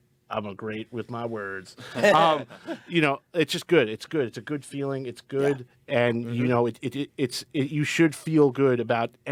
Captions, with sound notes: I'm a great with my words. (group laughing) You know, it's just good. It's good. It's a good feeling. It's good, and you know, you should feel good about